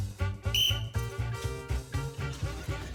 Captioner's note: blows whistle